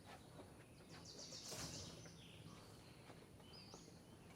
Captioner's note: birds chirping